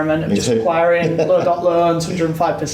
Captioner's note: laughs